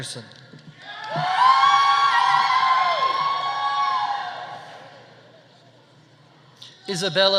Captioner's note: audience cheering; audience applauding